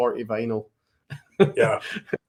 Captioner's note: laughs